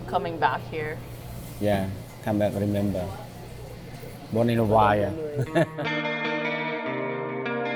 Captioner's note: laughs